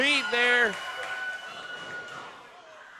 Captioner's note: crowd cheers